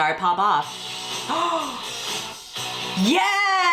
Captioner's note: gasps